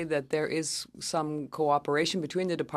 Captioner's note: speaking French